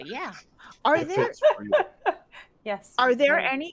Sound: players laughing

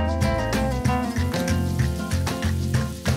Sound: sizzling

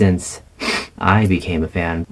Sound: sniff

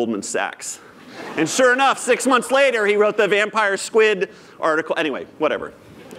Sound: laughter

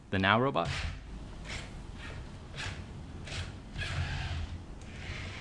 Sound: hinge movement sounds

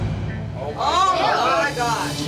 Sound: crowd

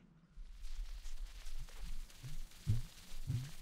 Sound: stylus on record

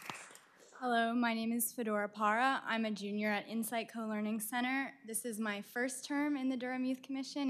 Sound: applause

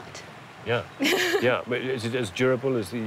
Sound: chuckling

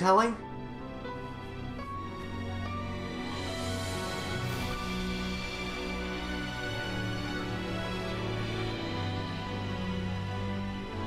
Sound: countdown sirens go off, are startled

